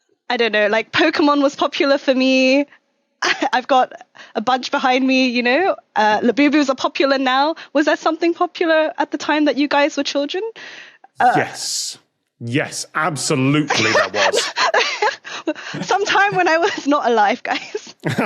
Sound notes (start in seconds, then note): 14.7 laughs; 18.0 group laughing